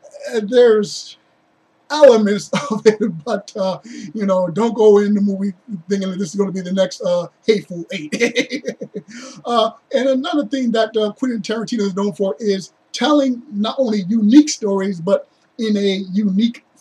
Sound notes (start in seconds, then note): 8.7 laughs